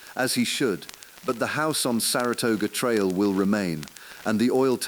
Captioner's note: exhale